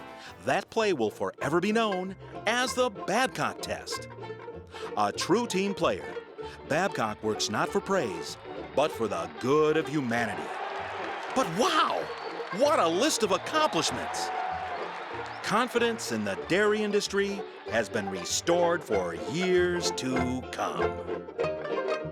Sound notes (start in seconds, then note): 10.3 crowd cheering